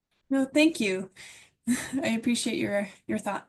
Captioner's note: laughs